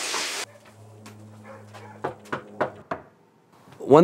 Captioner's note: knocking